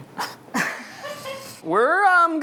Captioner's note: laughing